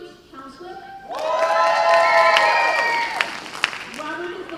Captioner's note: cheers and applause